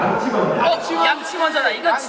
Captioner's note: all shout out brush first